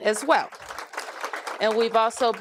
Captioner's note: applause